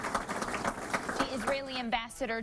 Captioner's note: applause